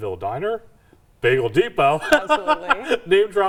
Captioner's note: laughs